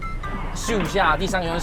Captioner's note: whoosh!